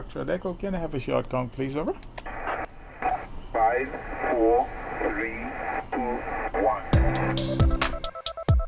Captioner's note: ham Radio Chatter